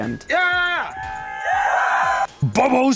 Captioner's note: group cheering